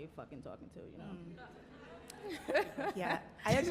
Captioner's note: audience chattering